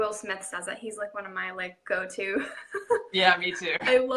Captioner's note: laughing